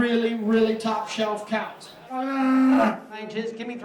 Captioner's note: cow mooing